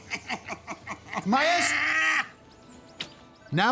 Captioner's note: laughs